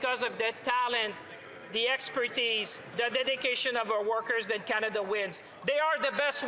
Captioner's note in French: voix de l'interprète